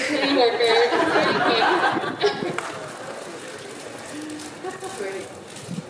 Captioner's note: audience laughing